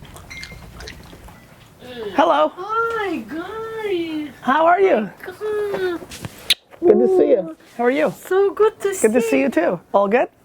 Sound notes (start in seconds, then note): 1.7 voiceover